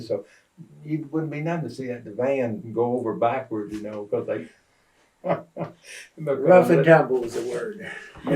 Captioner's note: laughter